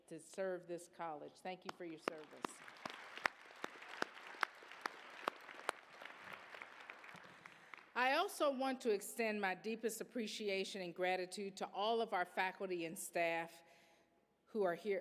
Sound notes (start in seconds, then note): 1.6 applause